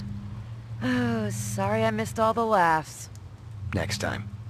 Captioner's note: sigh